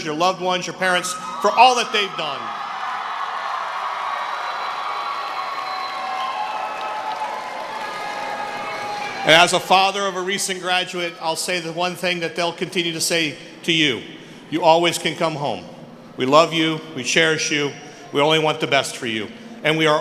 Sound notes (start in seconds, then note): 7.8 cheering; 9.2 applause